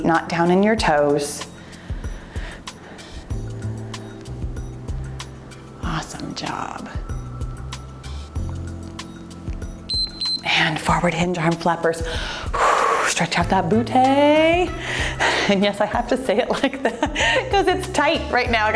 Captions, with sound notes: not down in your toes. Awesome job. (timer beeps) And forward hinge arm flappers. Stretch out that booty, and yes, I have to say it like that because it's tight right now,